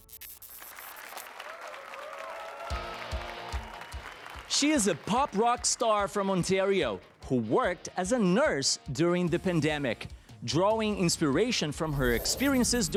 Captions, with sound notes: [APPLAUSE AND CHEERS] She is a pop rock star from Ontario who worked as a nurse during the pandemic. Drawing inspiration from her experiences